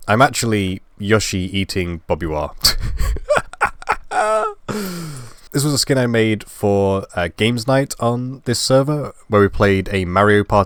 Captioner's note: laugh